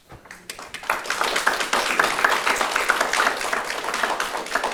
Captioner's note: audience applauding